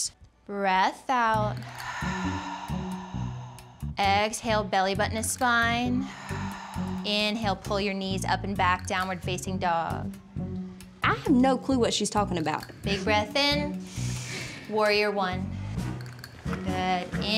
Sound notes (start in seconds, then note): 1.6 breathing; 3.9 breathing out; 13.8 people breathing